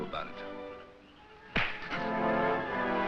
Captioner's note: intense music; thud